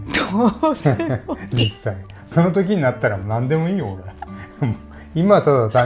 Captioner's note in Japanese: 笑い